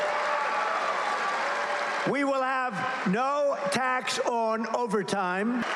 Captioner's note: cheers and applause